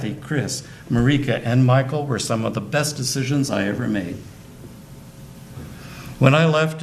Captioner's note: none